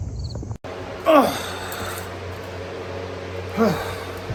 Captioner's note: Ava groans and grunts